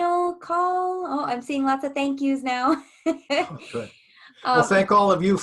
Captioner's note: laughs